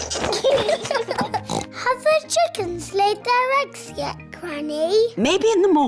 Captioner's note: both giggling; oinks